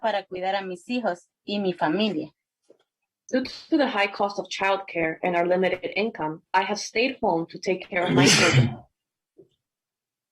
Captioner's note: spanish